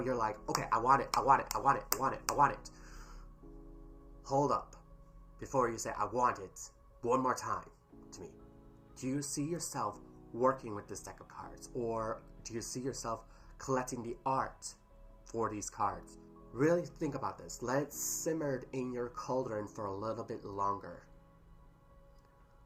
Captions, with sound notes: "Okay *Snap* I want it. *Snap* I want it. *Snap* I want it. *Snap* I want it." *Breathes* Hold up before you say "I want it" one more time to me. Do you see yourself working with this deck of cards? or... Do you see yourself collecting the art for these cards? Really think about this. Let it simmer in your cauldron for a little bit longer.